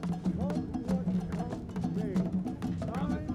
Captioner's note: indistinct chatter